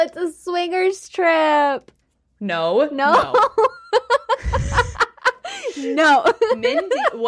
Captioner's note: laughing